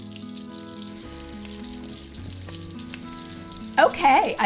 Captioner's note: butter sizzling